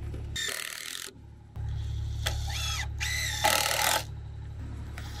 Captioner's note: screw gun spinning